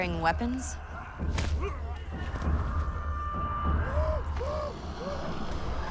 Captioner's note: clamoring